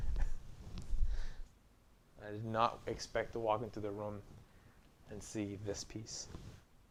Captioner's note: laughing